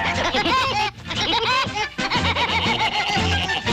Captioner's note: both laughing